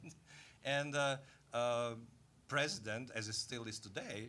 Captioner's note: chuckling